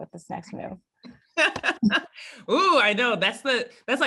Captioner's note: laugh